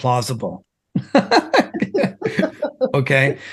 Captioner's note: laughing